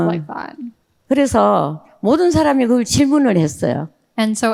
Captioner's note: speaking in foreign language